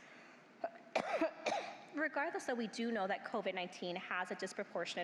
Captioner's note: coughs